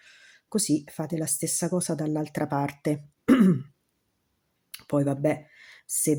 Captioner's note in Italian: schiarire la voce